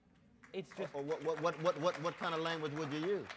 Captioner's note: audience applauds